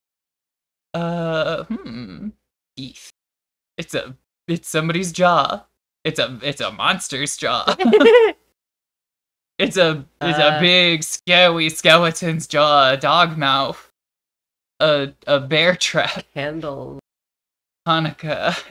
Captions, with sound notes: Uh, hmm. Eef. It's a... it's somebody's jaw. It's a... it's a monster's jaw. [giggles] It's a... it's a big, scary skeleton's jaw. A dog mouth. A bear trap. Handles. Hanukkah.